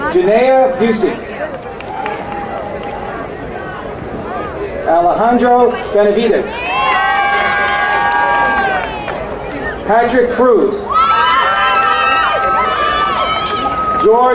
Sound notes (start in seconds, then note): 0.7 crowd cheering; 6.4 crowd cheering